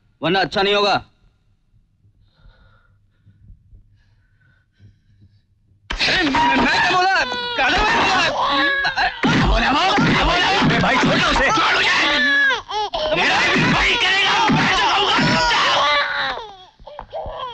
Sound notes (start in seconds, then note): 16.0 baby crying